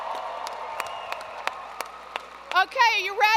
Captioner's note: cheers and applause